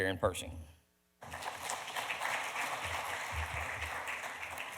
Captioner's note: audience applause